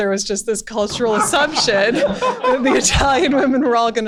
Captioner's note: laughter